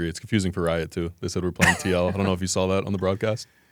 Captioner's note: laughs